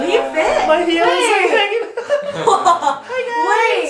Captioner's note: laughing